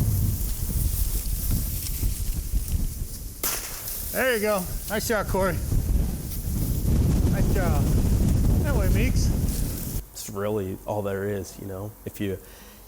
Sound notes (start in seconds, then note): 3.4 gun firing